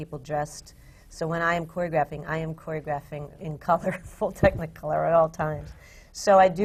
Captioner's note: laughs